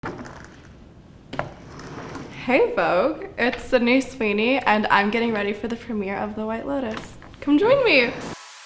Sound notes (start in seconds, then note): 1.3 door creeks